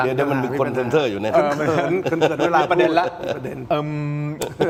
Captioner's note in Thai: เสียงหัวเราะ